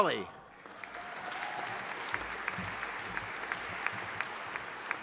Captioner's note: audience applauding